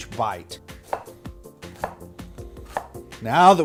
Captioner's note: knife whacking